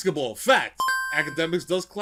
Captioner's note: beeping